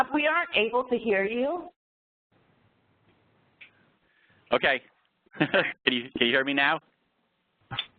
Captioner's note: laugh